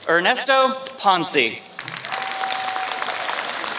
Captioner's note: applause